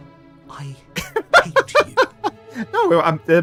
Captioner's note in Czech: smích